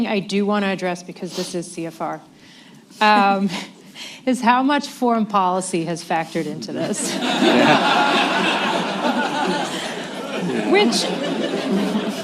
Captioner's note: laughter